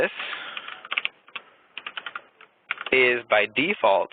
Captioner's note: keyboard clicking